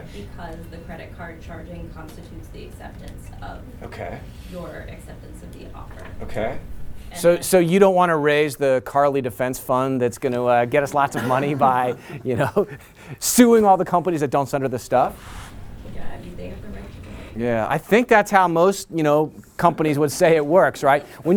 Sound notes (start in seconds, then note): 10.9 laughter